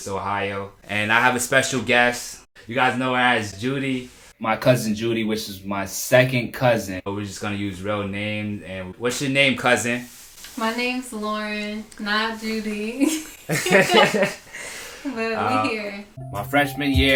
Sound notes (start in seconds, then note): 13.0 laughter